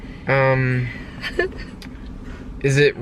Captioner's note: giggling